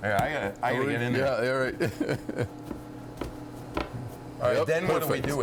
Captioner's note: chuckling